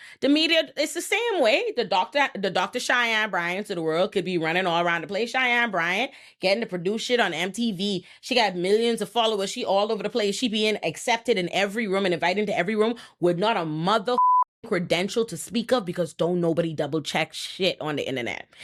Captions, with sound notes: The media, it's the same way. The Dr. Cheyenne Bryan to the world could be running all around the place. Cheyenne Bryan getting to produce shit on MTV. She got millions of followers. She all over the place. She being accepted in every room and invited into every room with not a mother (beep) credential to speak of because don't nobody double check shit on the internet.